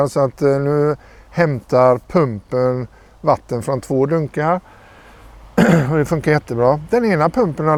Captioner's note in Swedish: harklar sig